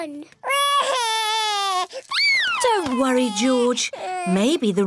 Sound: cries

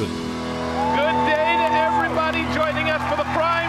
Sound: audience cheering

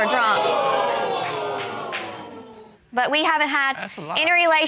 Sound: audience exclaiming

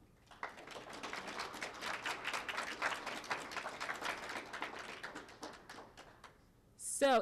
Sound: applause

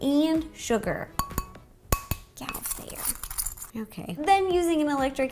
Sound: clinks glass

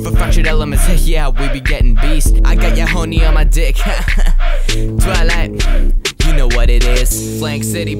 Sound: ha ha

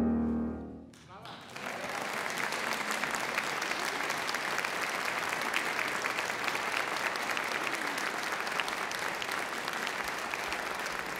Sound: applause

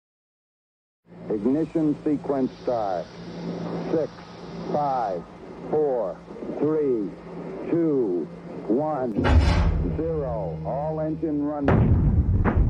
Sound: sounds of rocket blast

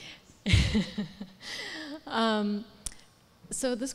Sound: laughs

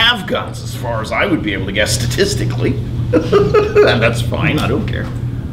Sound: laughs

